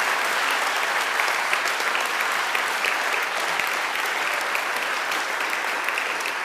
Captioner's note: audience applauding